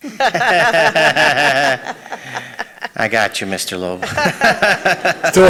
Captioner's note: laughs